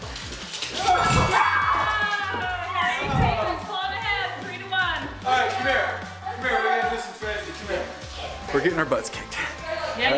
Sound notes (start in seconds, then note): 0.8 excited screams; 0.8 bell chiming